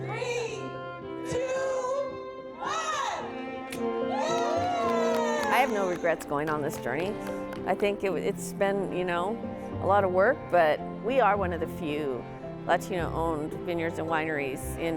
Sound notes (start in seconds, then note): 4.0 people cheering